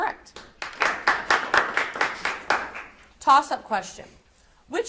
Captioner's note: audience applauds